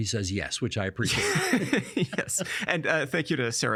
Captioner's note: laughing